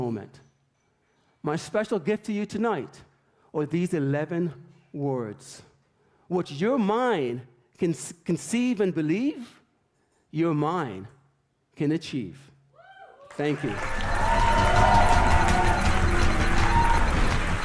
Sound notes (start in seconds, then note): 13.2 audience cheers; 13.8 intense music